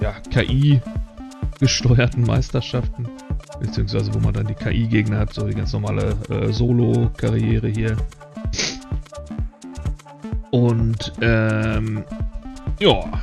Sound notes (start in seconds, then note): none